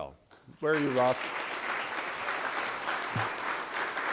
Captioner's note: applause